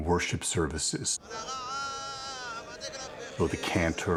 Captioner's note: chanting